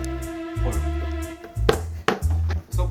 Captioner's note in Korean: 텅 텅